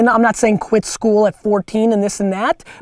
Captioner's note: none